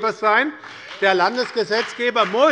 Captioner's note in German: Beifall bei der SPD und der FDP